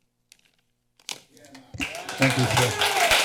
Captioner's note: clapping